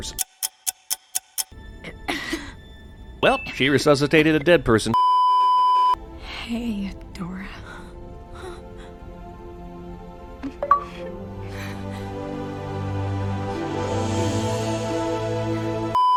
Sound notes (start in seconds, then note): 0.0 tick tock; 1.8 coughs herself back to life; 5.0 beeeeeeeeeeeep; 7.4 sobs; 10.8 shakey breathes; 15.9 beeeeeeeeeeeep